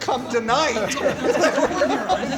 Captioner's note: laughter